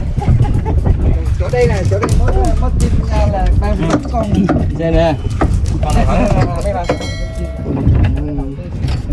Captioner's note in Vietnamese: Laughing